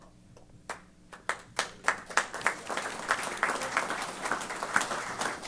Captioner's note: applause